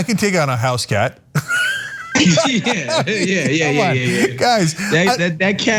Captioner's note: laugh